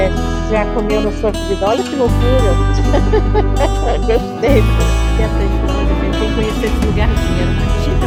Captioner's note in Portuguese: risos